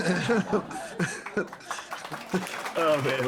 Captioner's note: laughing